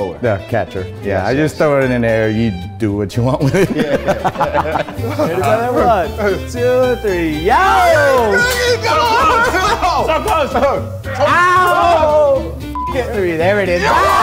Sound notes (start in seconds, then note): 3.4 laughs; 9.1 everyone laughs